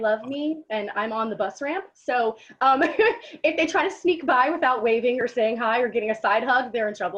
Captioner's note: giggles